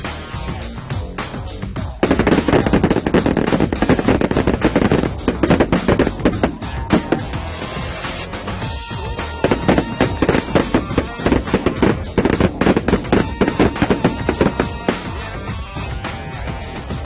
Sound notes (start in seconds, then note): 5.5 shotguns blast